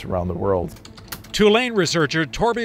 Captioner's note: keyboard clicking